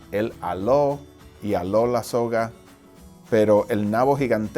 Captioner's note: speaking foreign language